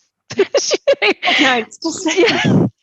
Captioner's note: laughs